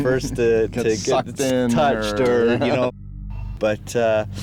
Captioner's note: laughs